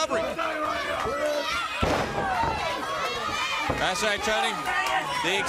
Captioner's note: crowd chatter